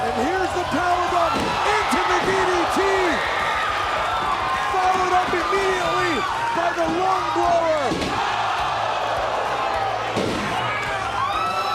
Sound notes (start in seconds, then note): 8.4 crowd cheering